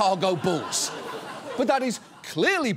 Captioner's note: audience laughs